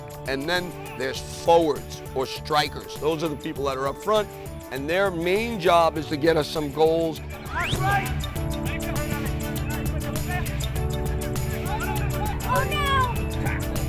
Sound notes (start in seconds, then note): 7.0 playful whistle; 8.5 team members shouting; 11.7 upbeat music